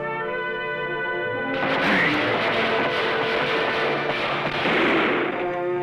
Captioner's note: gunfire